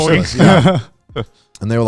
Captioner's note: laughing